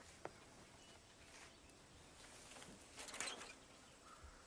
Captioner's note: birds chirping; metal clanking; crow cawing